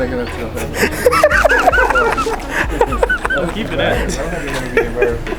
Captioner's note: laughter